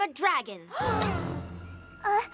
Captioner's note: all gasp